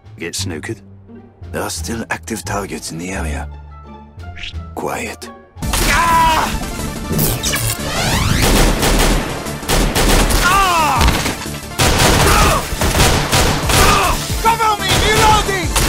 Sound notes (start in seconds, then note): 10.4 korean Screaming